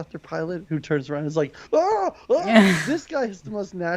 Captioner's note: yelling